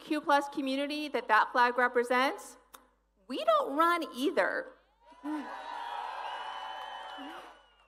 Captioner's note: applause